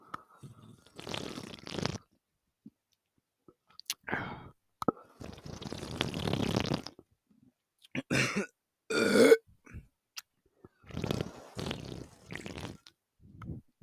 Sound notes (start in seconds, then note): 0.1 slurp🤪🤭; 8.9 also burp